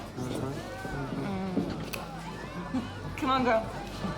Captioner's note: chuckles